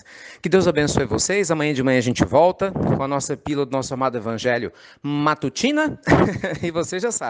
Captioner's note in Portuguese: Risos